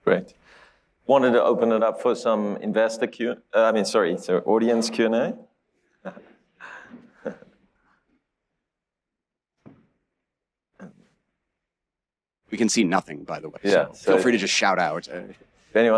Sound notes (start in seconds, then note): 6.0 laughs